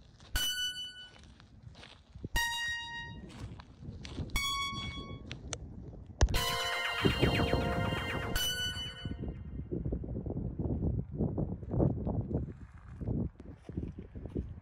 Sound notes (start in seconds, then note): 0.3 jarring music; 8.8 wind blowing